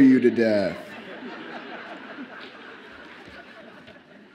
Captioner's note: audience laughs